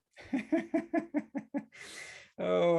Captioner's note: laughs